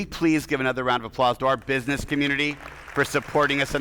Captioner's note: attendees applauding